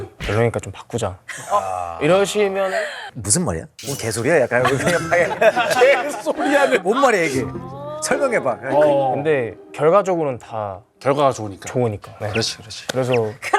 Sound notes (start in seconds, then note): 5.2 shivering